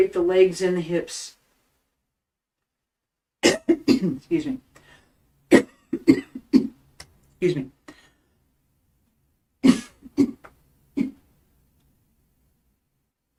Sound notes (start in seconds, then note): 2.6 coughing Excuse me. Excuse me